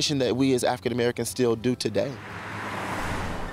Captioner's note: car rumbles